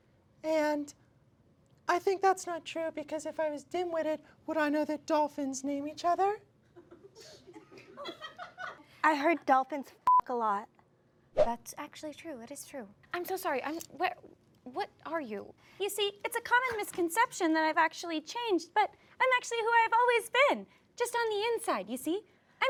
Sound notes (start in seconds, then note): 6.8 audience laughs; 10.0 beep